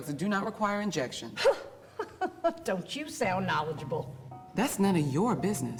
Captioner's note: chuckles